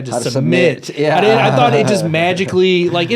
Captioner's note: laughs